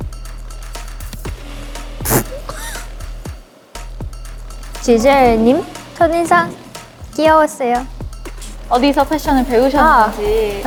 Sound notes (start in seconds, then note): 2.0 couldn't hold in laughter